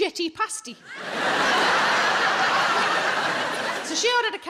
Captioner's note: audience laughing